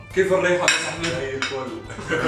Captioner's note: in Egyptian accent